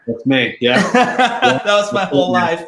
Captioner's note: laughing